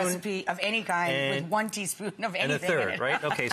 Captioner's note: laughs